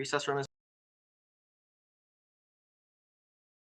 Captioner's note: silence